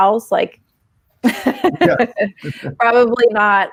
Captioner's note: laughing